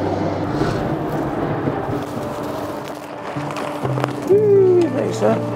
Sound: undergrowth rustling

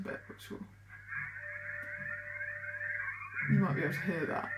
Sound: whistleing

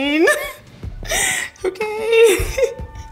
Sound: laughs

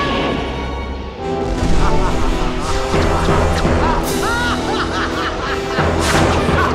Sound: menacing music; Ursula laughing; electricity crackling

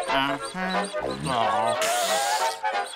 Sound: hissing

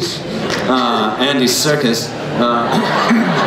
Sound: laughter

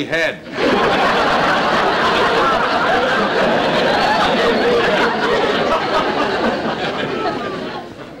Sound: audience Laughing

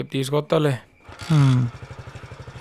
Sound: Nandan groans

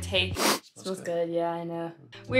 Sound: sniff

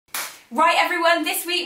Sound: claps

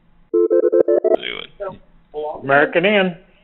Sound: phone rings

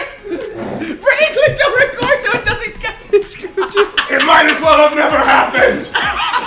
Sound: laugh

